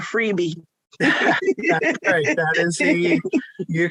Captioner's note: laughs